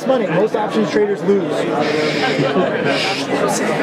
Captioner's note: shushes